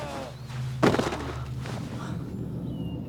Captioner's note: breathing heavily